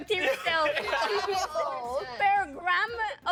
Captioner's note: all laughing